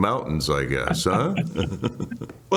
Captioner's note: laughter